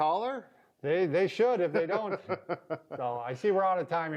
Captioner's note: laughs